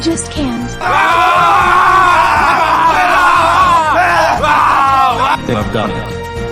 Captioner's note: crying in joy; yelling and cheering